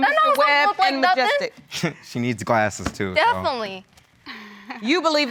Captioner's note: chuckles